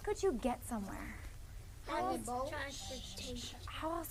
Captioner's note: multiple students answering